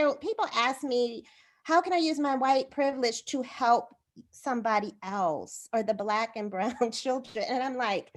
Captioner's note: laughter